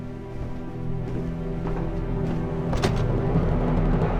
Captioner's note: footsteps